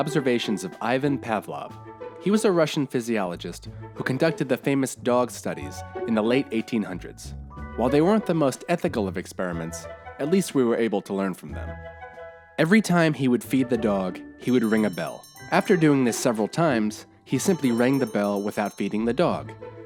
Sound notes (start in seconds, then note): 14.5 ringing